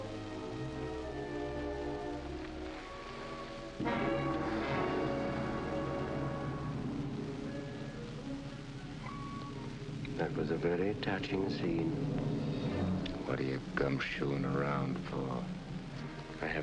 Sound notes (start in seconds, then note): 7.6 sighs deeply; 7.6 tense music